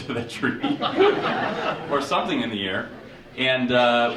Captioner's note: audience chuckling